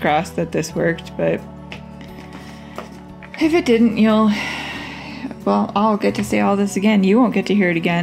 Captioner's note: sigh